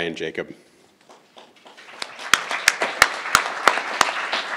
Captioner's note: crowd applauding